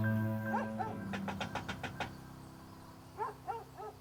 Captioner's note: knocking